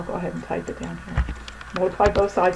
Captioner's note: typing